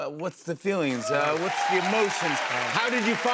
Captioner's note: cheers and applause